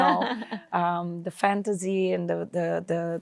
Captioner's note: laughs